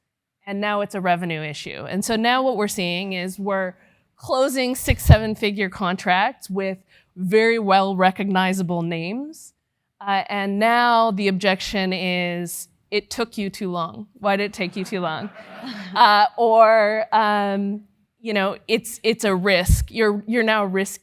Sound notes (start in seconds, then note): 14.4 laugh